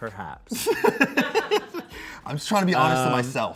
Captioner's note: and crew laugh